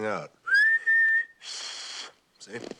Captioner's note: whistles